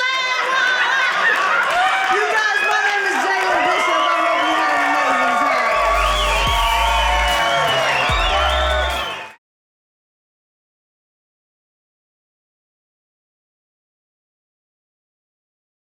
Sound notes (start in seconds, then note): 0.2 audience laughing; 6.1 audience cheering